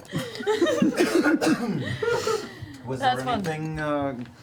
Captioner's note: all laugh